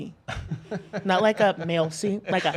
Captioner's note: laughs